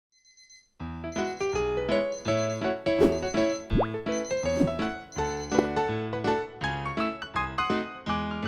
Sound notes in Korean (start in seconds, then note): 0.0 알람소리; 2.9 ♬ 경쾌한 배경음악